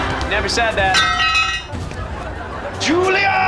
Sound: metal clanging

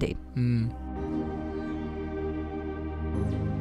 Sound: voiceover

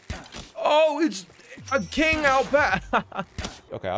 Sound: laughing

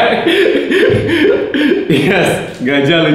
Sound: laughing

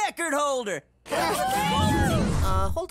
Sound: cheering

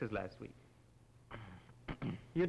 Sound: Fernand coughs

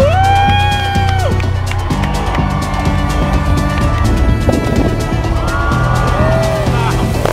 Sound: crowd cheers

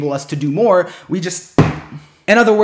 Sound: smack

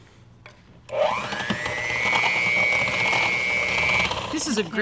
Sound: mixer whirs

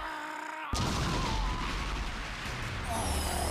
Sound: crashing

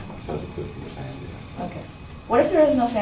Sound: voiceover

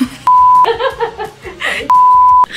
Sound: laughing

